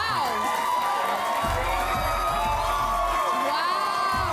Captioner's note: audience applauding